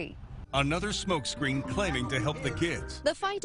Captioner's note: voiceover